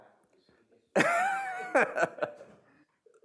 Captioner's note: laughing